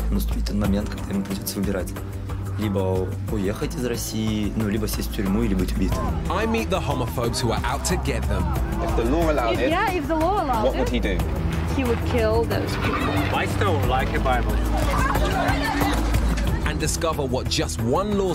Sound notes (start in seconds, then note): 0.1 speaking in foreign language; 15.0 people clamoring